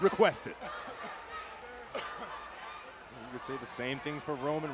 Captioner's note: crowd shouting; Corbin coughing